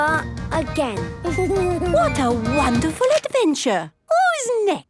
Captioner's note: Danny giggles